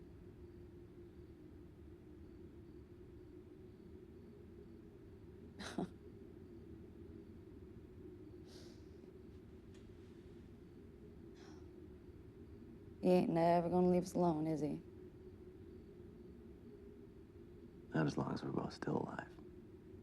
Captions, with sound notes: ( chuckles ) He ain't never gonna leave us alone, is he? Not as long as we're both still alive.